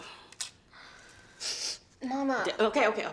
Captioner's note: Beverly sniffs